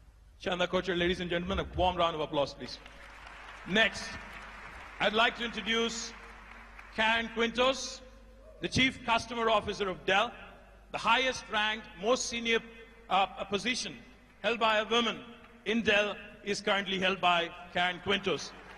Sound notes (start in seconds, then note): 2.6 applause